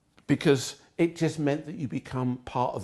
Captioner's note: none